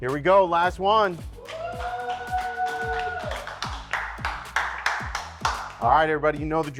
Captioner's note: contestants cheering and applauding